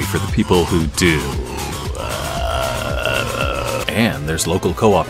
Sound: confused segue noises

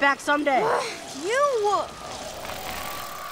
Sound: growls

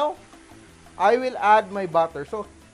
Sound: sizzle

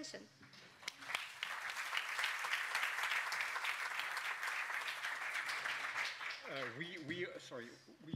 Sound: speaker Transition. Applause

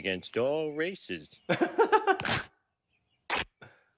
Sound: laughing

